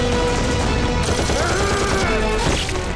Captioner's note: Rapid gunfire